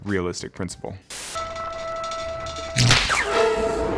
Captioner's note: device humming; loud zap